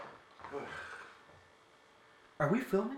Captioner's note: sighing